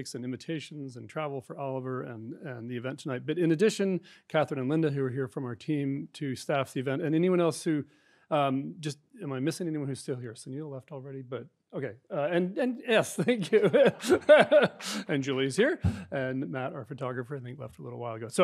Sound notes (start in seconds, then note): 12.8 laughing